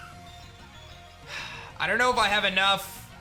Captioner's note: sighs